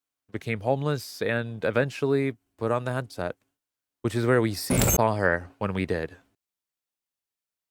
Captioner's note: glitch effect